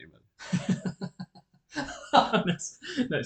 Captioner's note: laughter